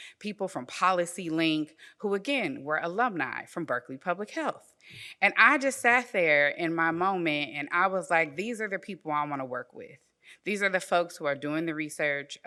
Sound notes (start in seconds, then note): none